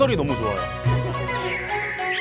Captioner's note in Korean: 반짝이는 효과음